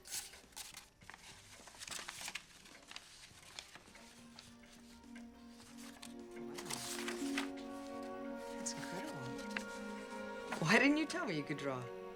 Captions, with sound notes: (paper rustling) Wow. It's incredible. Why didn't you tell me you could draw?